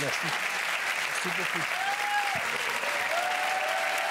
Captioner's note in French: applaudissements